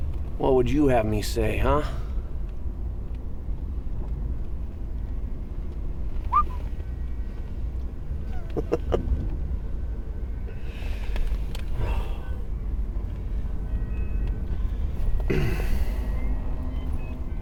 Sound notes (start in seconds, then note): 6.2 whistling